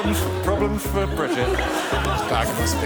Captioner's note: laughter